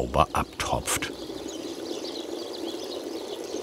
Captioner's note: birds chirping